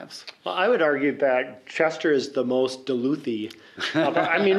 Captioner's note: laughter